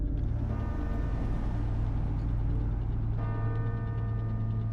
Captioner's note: bells chiming